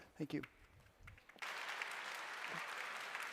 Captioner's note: applause